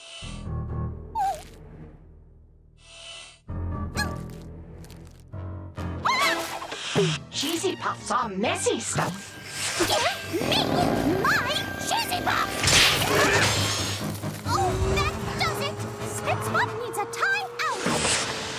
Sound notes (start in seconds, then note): 0.1 ominous music plays; 6.0 yells